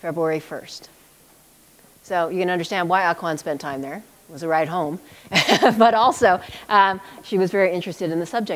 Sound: chuckle

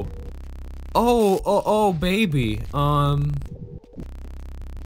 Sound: stammering

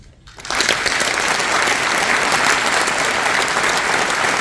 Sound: applause

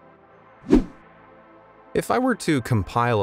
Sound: video whooshing

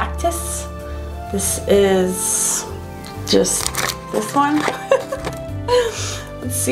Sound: laughs

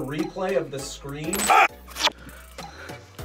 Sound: screams

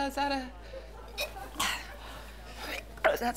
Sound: gagging

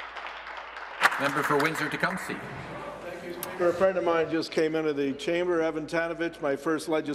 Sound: applause

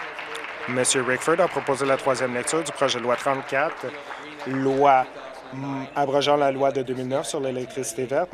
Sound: applause

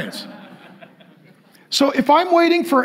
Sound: congregation laughing

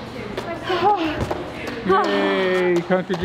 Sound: heavy breathing

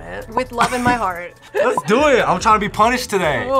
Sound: laughs

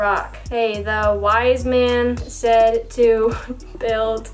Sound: laughs

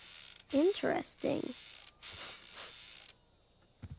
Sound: sniffing

